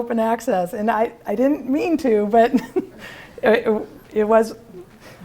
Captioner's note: laughter